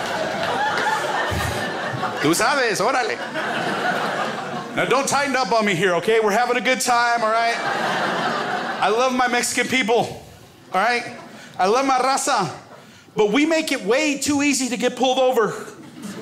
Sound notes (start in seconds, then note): 2.3 foreign language